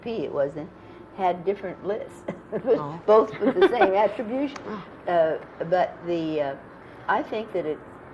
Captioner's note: laughter